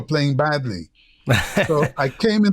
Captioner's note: laughter